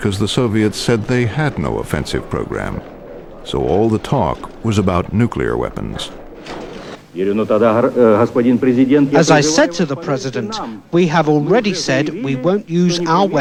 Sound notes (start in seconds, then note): 7.7 through translator